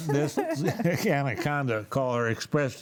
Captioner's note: panelists laughing